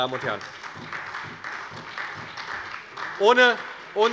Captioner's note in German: Beifall bei der SPD